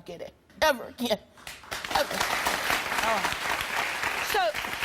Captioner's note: audience applauding